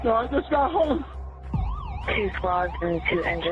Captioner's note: sirens wailng